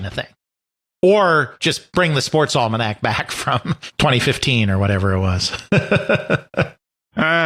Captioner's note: chuckles